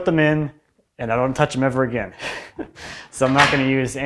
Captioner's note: laughs